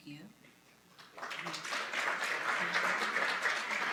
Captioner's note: applause